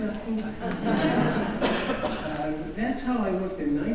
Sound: audience laughs

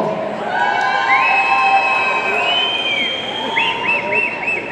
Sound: audience cheering

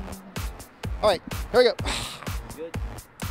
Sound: sighs

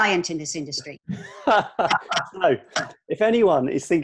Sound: laughter

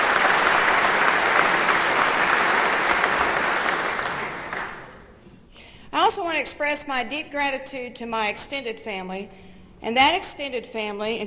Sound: applause

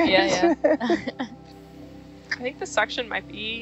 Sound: all laughing

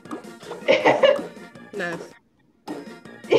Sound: laughs

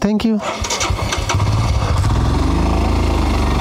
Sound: engine Start Sound

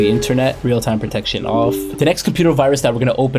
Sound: computer chimes

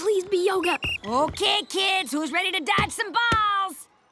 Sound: whistling

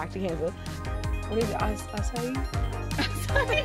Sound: chatter; laughter

